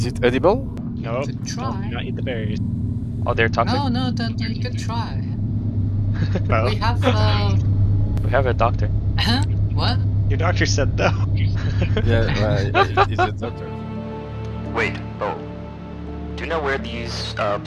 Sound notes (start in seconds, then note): 0.0 on the radio; 5.7 on the radio; 6.2 laughs; 8.7 on the radio; 11.5 everyone laughs